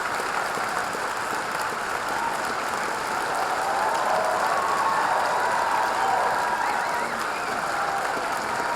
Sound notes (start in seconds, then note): 5.2 audience cheering